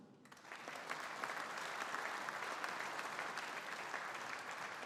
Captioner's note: audience applauding